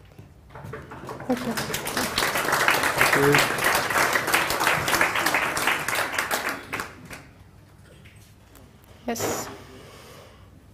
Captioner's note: applause